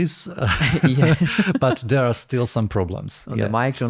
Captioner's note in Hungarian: nevetés